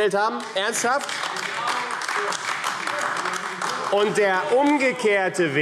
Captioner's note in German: Beifall